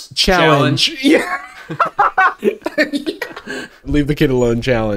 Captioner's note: laughs